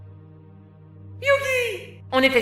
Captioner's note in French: voix cruche